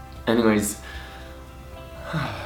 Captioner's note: sighs